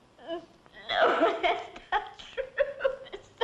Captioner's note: crying